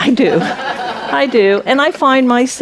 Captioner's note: audience laughs